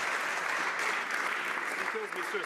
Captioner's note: some Applause